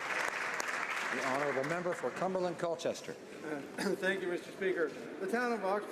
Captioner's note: applause